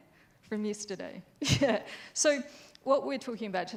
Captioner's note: laughs